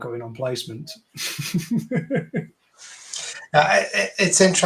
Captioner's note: chuckling